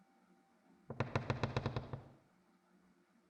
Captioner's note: floor creak